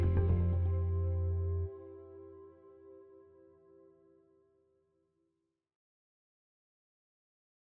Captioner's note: applause